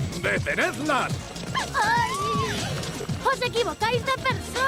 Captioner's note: girls shriek